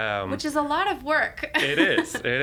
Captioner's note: laughing